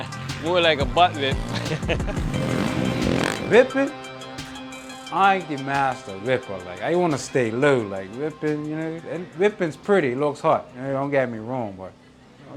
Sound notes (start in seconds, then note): 1.1 laughs; 4.0 rap instrumental fades out